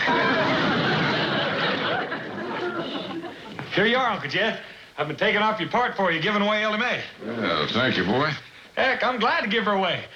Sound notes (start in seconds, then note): 0.9 hushed